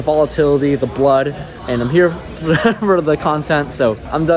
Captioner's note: chuckles